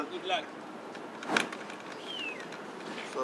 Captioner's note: luggage clinks